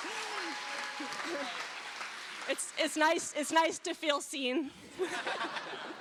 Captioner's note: cheers and applause